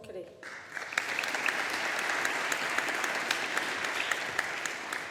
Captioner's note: audience applauding